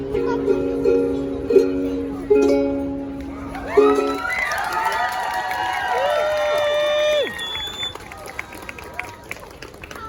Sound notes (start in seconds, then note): 4.1 applause